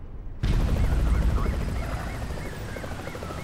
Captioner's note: police sirens